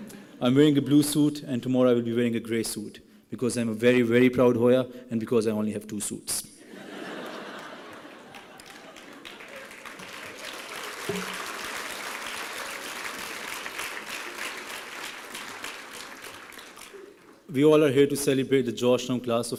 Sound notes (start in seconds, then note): 7.0 laughing; 9.5 applause